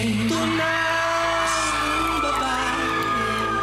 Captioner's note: audience cheering